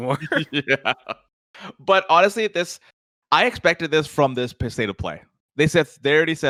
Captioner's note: laughs